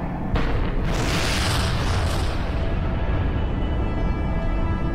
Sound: loud booming

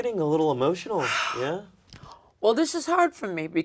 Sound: Luigi sighs

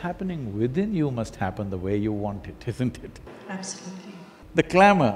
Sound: laughs

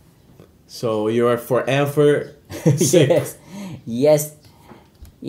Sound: laughs

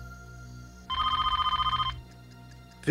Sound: phone ringing

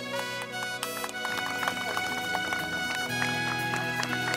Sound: applause

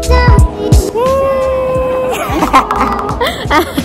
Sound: laughs in excitement! HAHAHA

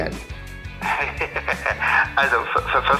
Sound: laughs

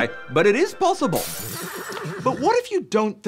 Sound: horse neighs

